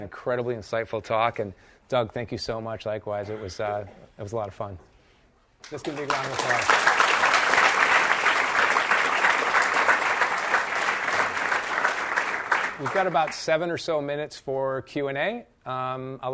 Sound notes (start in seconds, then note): 7.8 audience claps